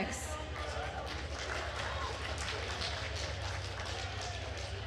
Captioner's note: attendees applauding